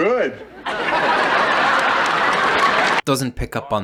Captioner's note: audience laughing